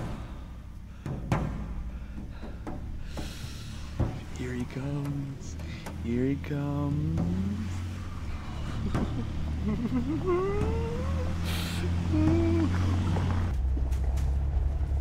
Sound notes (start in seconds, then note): 4.3 excited; 8.6 excited laughter